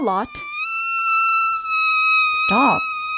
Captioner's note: high pitched squeal